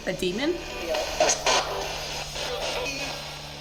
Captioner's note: spirit box voice